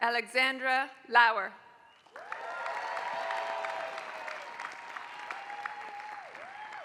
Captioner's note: applause